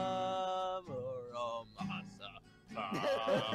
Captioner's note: singing; laughing; trying not to laugh